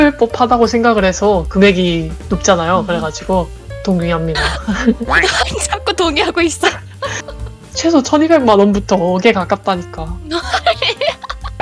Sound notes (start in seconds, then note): 4.3 laugh; 10.3 laugh